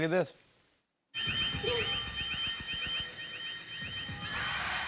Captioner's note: alarm blaring